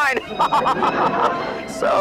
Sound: laughs

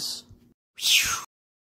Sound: voice Whoosh Sound Effect

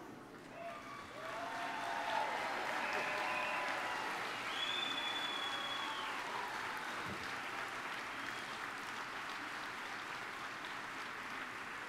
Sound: applause

